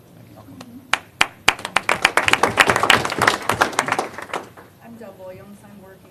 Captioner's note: applause